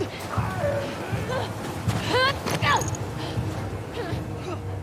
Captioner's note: Abby panting